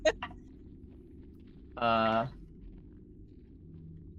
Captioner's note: laughing continues